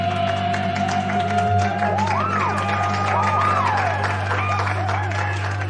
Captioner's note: cheering, applauding